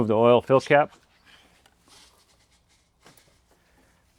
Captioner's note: silence